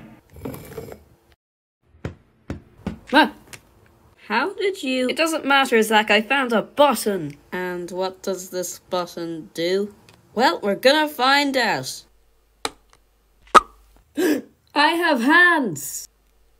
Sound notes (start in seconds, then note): 2.4 ball noises; 12.5 clįck; 14.2 gasps